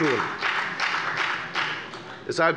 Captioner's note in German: Beifall bei der FDP